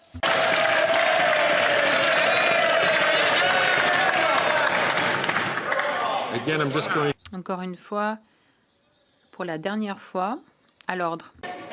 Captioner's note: some Applause